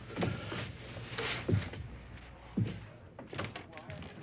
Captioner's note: footsteps